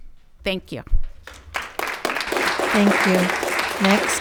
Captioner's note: audience clapping